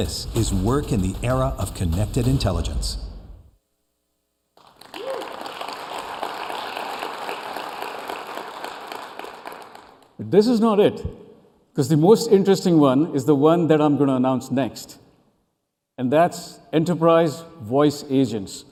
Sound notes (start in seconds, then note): 2.1 applause